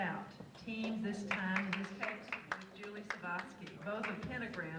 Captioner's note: audience applauds